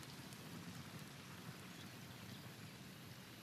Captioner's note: none